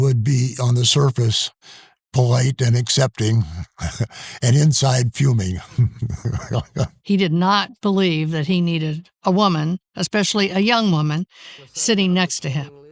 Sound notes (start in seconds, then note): 5.4 laughing